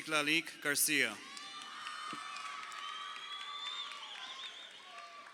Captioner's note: crowd cheering